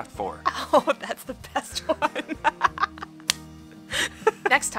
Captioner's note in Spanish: riendo